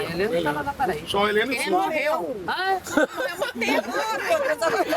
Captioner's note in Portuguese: risada